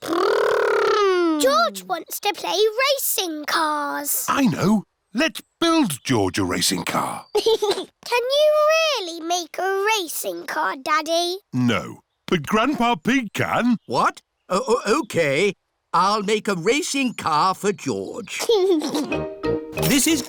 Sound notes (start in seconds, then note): 7.3 chuckles